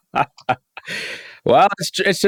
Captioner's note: laughing